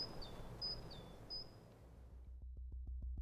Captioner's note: birds chirping